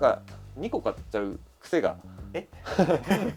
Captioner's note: laughs